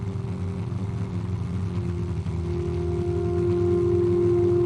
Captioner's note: plane propeller whirring; gentle music